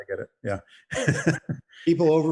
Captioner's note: laughs